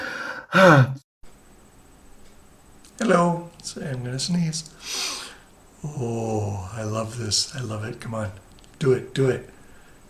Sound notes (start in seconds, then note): 0.0 exhales; 4.8 sniffles